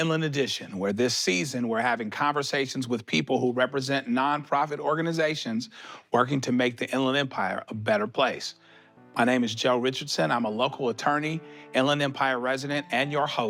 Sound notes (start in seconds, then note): none